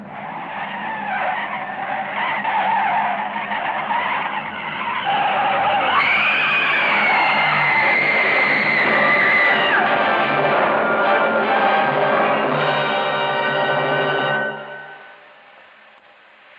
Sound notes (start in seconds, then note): 0.1 tires screeching; 5.5 screaming; 9.7 dramatic music